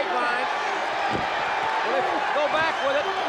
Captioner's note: crowd cheers